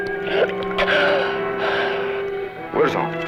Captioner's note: non-english speech; gasps